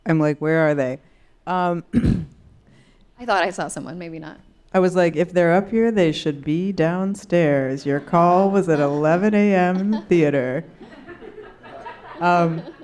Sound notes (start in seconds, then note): 7.8 laughing